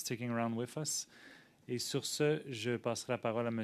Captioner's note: speaking French